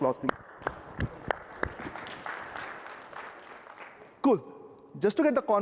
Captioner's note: applause